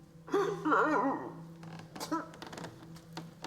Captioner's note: crying